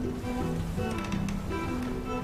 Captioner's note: June's chair creaks